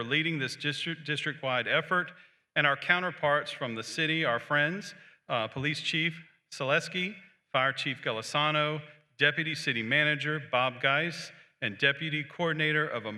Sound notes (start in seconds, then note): none